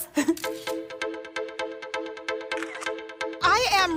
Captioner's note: upbeat music; camera clicks